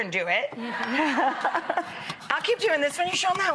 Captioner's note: laughing